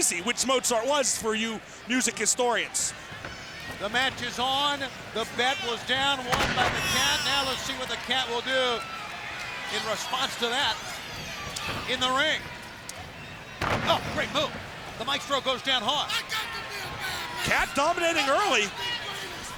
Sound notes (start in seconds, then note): 13.6 bodies thudding